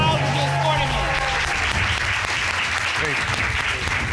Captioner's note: cheers and applause